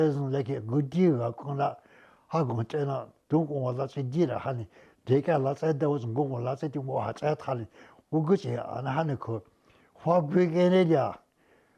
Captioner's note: speaking Indigenous Language